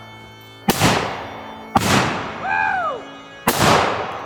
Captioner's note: gun banging